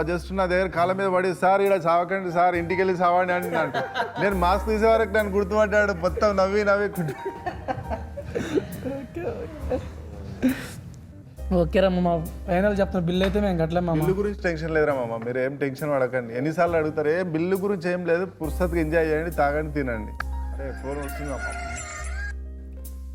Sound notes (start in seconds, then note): 20.9 phone rings